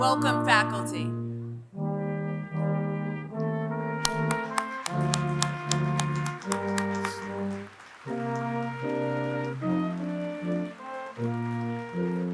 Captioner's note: applause